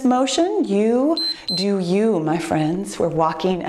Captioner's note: timer beeps